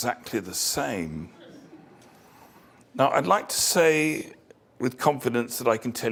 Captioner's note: laugh